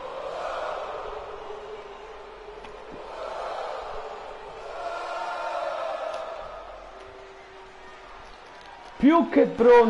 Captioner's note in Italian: Applauso